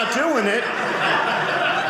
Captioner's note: audience laughing